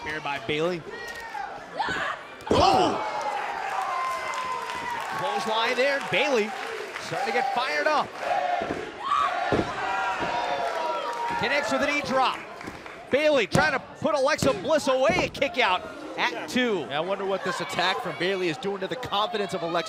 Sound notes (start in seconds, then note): 4.3 cheers & applause; 9.8 fans chanting